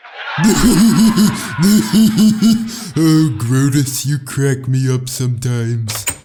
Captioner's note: laughs; laugh track; door opens